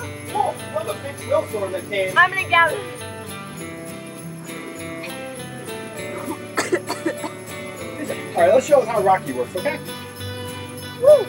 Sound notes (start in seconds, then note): 6.0 assistant coughing